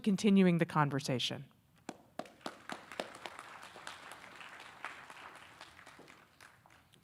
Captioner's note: audience applauding